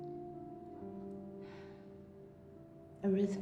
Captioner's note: sighs softly